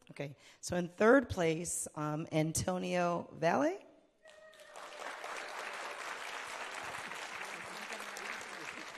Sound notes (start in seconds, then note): 4.3 audience applauding